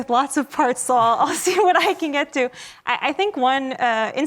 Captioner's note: laughs